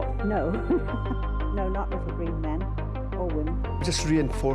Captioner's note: chuckles